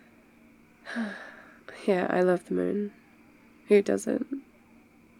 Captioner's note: sighs